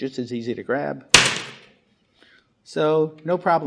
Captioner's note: ball thwacks loudly